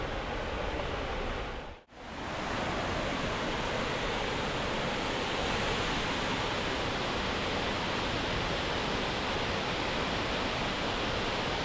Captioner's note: sound of Nature